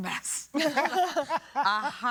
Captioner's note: chuckling